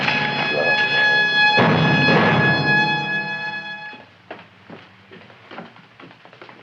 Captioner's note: dramatic music; Audrey Jr. munching